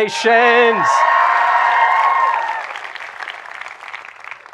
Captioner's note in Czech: potlesk